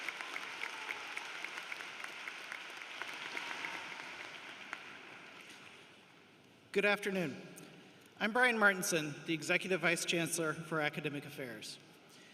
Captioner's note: applause